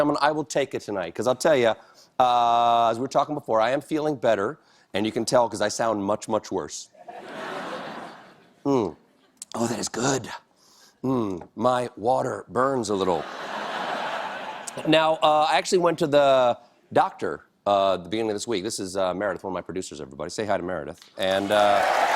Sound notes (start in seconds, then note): 13.1 laughter